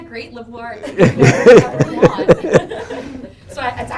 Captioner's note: group laughing